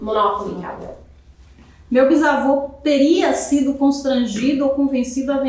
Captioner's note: speaking portuguese